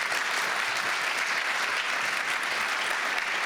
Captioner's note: applause